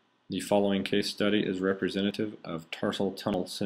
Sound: voiceover

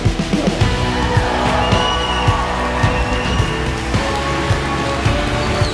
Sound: crowd cheers; soft music

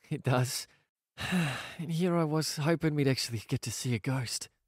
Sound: sighs

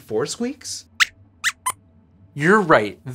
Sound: squeaks squeaks

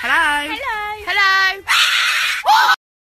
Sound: bird sreeching

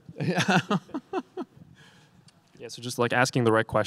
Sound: laughing

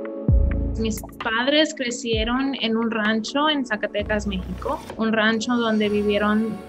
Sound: upbeat music; person speaking in Spanish

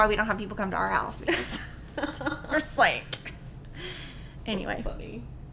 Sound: laughing

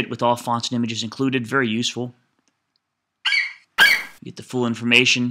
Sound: FlightCheck eagle screeches

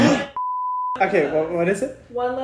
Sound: buzzer; beep

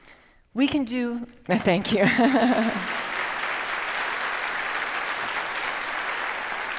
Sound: audience applauds

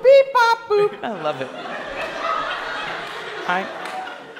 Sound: class laughs

